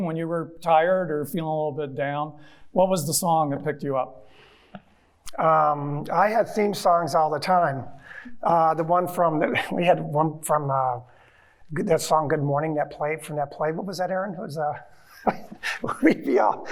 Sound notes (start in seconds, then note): 15.0 chuckling